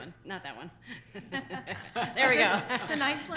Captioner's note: laughing